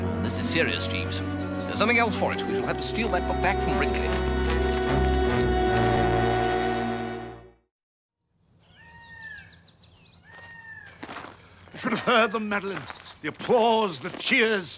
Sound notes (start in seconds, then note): 8.3 birds sing